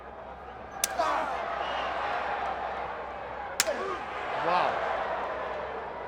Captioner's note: crowd chatter